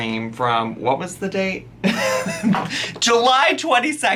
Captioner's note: laughs